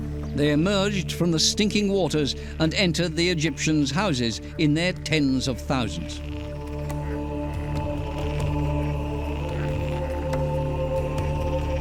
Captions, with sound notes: They emerged from the stinking waters and entered the Egyptians' houses in their tens of thousands. [frogs croaking]